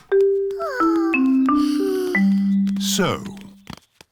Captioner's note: peppa and george sigh